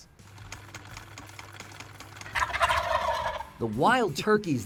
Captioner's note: sewing machine clicks